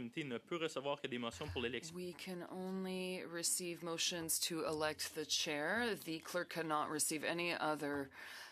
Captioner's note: speaking French